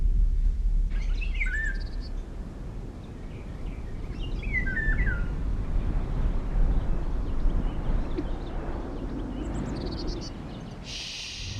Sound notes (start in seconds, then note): 6.6 birds chirping